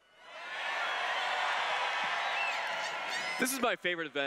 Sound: cheers

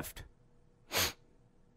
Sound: sniffs

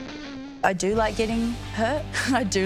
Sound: chuckles

